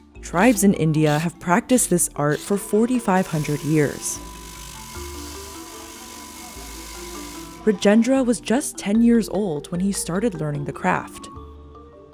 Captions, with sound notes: Tribes in India have practiced this art for 4,500 years. (machine whirring) Rajendra was just 10 years old when he started learning the craft.